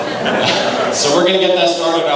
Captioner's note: laughing